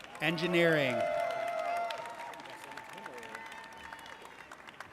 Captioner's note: audience cheers